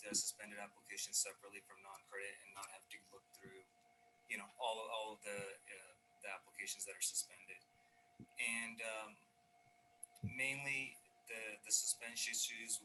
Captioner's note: audio connection unstable